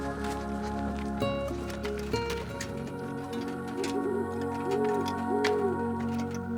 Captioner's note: soft music; owl hooting